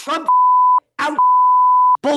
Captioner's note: beep